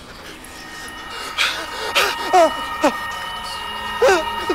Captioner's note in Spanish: solloza y grita